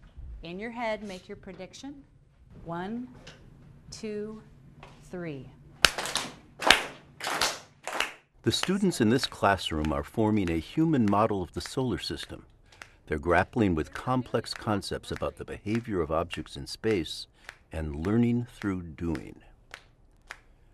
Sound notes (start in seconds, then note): 5.7 rhythmic clapping